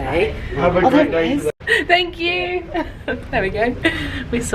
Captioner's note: laughs